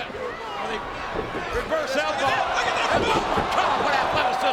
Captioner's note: audience cheering; bodies thud